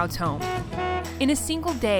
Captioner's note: honking